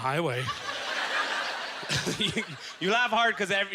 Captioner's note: audience laughter